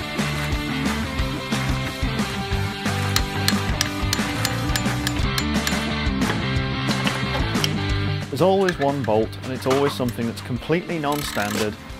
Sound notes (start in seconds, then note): 2.9 percussive disassembly intensifies